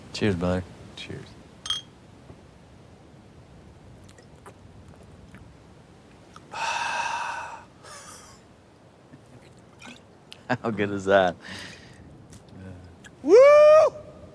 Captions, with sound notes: - Cheers, brother. - Cheers. (bottles clinking) (Lance gulping) (Lance sighs and chuckles) (Lance gulping) How good is that? - Woo!